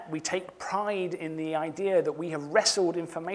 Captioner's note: none